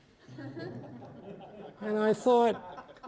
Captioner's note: audience laughing